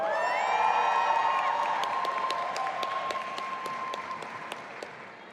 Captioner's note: audience applauding and cheering